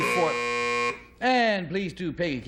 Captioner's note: buzzer